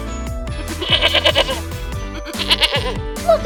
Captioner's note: bleating sound